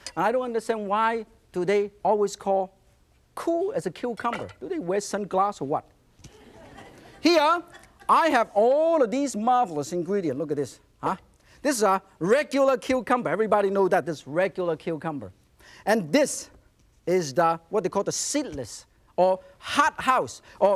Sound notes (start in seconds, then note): 6.3 audience laughs